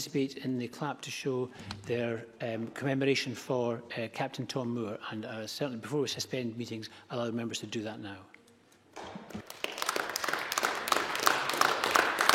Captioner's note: applause